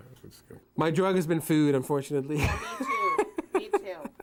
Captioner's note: laughing